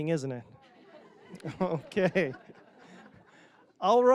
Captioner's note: audience laughing